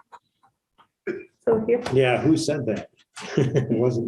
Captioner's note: laughter